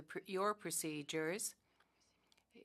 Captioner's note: speaking French